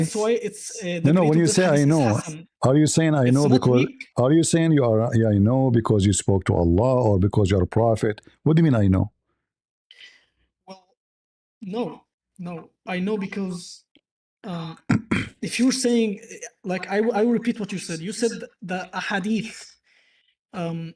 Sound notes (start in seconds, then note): 14.8 clears throat